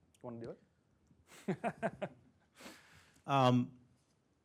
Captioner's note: laughter